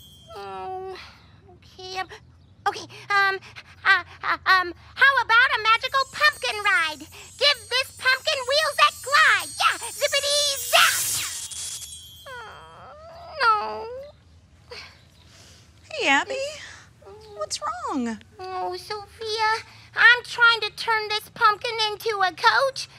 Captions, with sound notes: Oh, OK. OK, how about a magical pumpkin ride? Give this pumpkin wheels that grind. Yeah, zippidee zat! [whining] Oh, no. [sniffles] Hey, Abby, what's wrong? Oh, Sofia, I'm trying to turn this pumpkin into a coach.